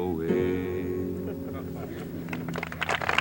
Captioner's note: audience chuckles; audience applauds